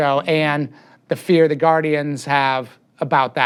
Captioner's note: none